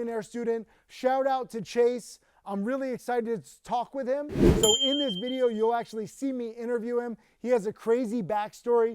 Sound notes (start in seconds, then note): 4.3 wind whooshing; 4.5 bell dinging